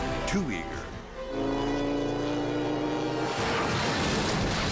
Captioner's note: engine roars; motorcycle clashes